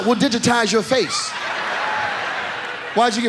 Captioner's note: audience laughs